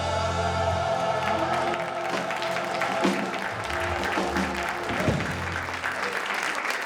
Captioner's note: choir and audience applauding